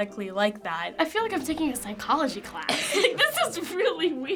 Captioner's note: laughs